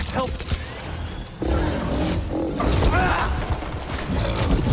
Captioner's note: Oggdo growling